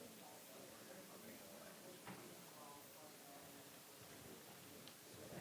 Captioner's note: audience chattering softly